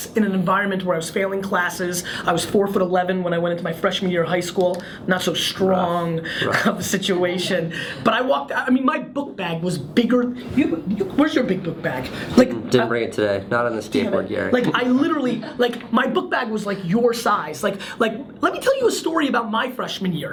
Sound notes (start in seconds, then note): 6.4 laughs